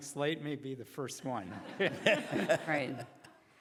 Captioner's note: laughing